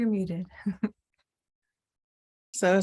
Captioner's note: chuckles